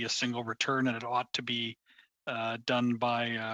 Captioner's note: speaking French